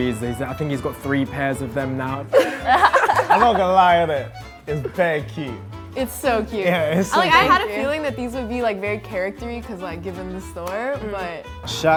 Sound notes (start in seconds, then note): 2.3 group laughing